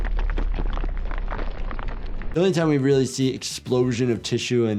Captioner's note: none